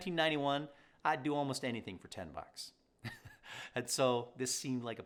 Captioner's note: chuckles